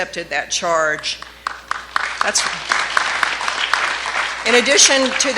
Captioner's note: clapping